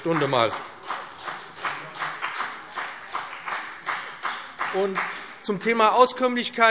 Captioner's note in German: Beifall BÜNDNIS 90/DIE GRÜNEN und vereinzelt CDU